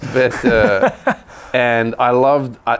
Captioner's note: laughter